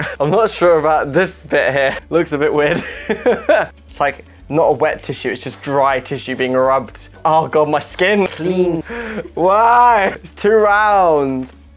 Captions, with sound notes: I'm not sure about this bit here Looks a bit weird (laughing) It's like - not a wet tissue, it's just dry tissue being rubbed Oh God, my skin! CLEAN WHY????? IT'S TOO ROUND!